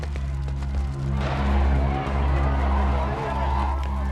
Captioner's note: protestors shouting